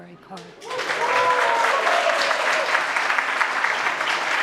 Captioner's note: audience claps